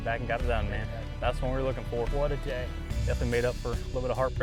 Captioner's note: none